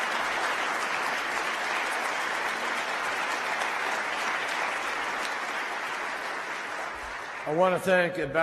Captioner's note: applause